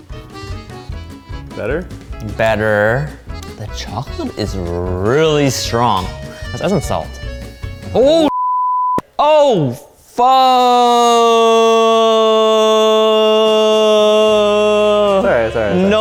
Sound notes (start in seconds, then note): 8.2 beep